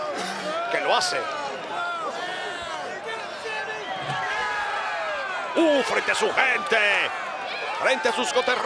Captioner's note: applause